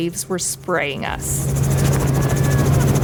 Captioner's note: helicopter whirring